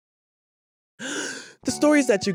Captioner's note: gasp